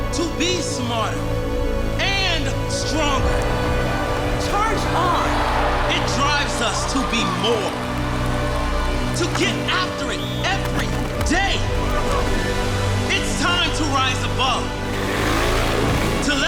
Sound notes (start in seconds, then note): 5.4 crowd roars; 15.3 engine revs